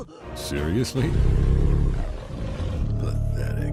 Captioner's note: Godzilla groaning